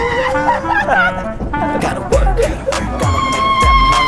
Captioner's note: filled with joyful screams